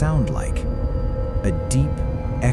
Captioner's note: Play Julia sound — low, resonant, hollow